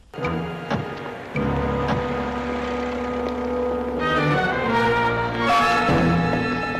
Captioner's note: dramatic music; footsteps